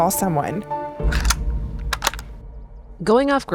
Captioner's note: cocking gun